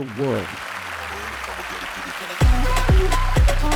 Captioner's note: applause